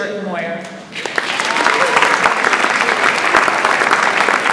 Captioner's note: audience applauds